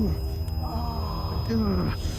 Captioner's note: grunts